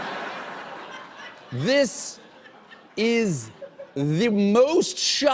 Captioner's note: laughter